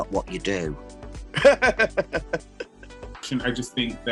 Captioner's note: laughter